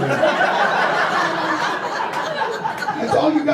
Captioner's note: audience laughter